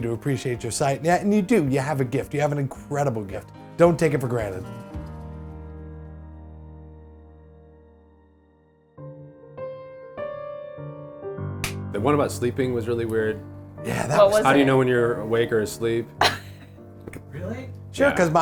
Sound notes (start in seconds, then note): 5.2 music fades; 9.5 playful piano music; 11.6 clapboard snaps; 16.2 cracks up